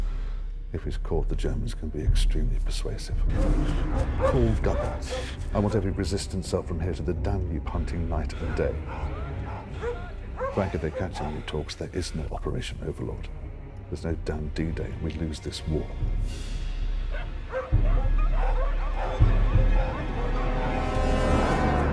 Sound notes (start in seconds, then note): 17.0 dogs barking; 18.3 soldiers talking in German; 21.6 dogs barking